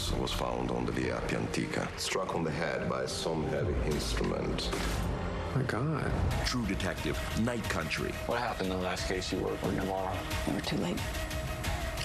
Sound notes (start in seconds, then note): none